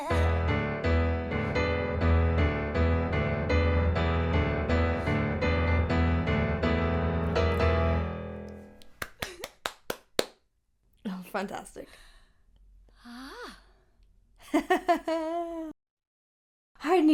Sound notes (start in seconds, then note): 0.0 singing in Japanese; 0.0 energetic piano music; 8.8 clapping; 9.0 giggling; 12.9 sighing; 14.5 roars laughing